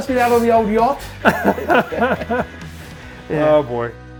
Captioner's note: laughing